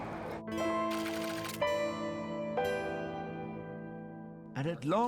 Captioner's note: blowing whistle; destination board clacking; weary music